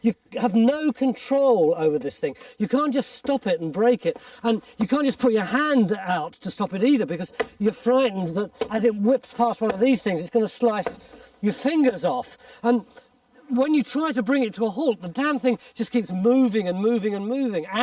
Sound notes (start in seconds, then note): none